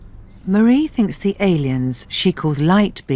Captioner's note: voiceover